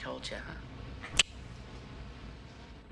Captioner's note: Borden clicks tongue